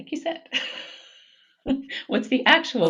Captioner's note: both laughing